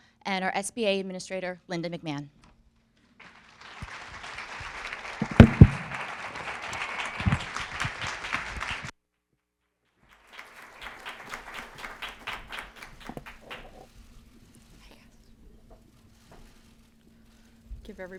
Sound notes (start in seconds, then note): 3.2 applause